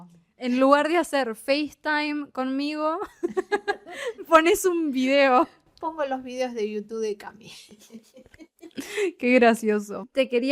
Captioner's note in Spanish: risas